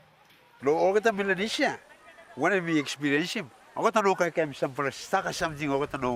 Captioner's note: speaks in foreign language